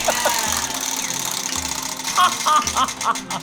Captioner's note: wheel spinning